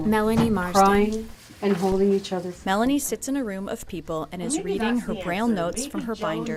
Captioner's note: voice fade